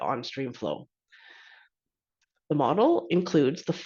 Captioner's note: inhales deeply